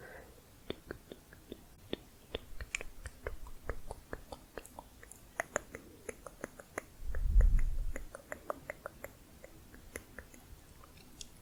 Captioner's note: tongue clicking